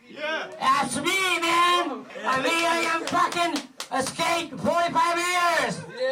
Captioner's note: speaking in foreign language